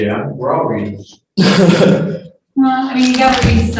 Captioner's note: laughter